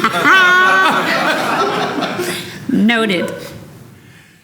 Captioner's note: laughter